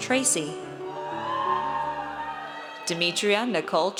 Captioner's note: audience cheers